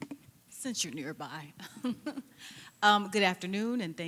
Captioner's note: laughs